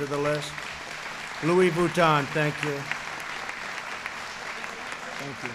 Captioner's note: applause